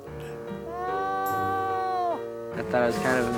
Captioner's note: crying out